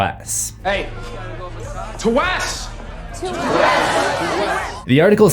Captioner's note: crowd